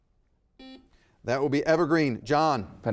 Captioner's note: buzzer beeping